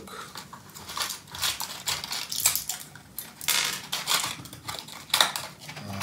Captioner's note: loud pill pack and blister sounds